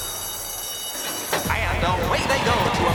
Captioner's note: racetrack Announcer